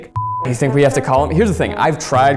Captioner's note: beep